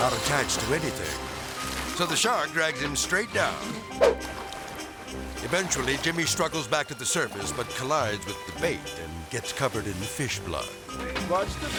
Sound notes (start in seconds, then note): 4.1 air swoosh; 4.1 melodic music; 11.5 melodic music